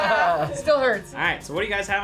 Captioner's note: laughs